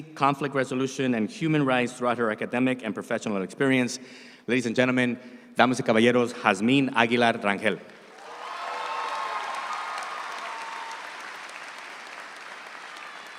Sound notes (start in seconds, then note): 5.6 speaks in Spanish; 8.0 audience applauds